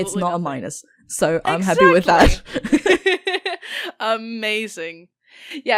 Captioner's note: laughs